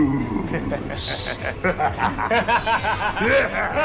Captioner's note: both laughing